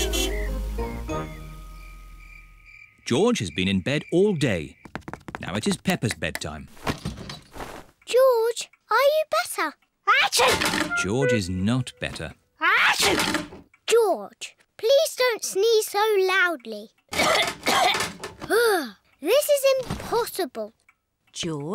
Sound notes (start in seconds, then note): 0.0 horn honks; 10.4 sneezes; 12.9 sneezes; 17.1 coughs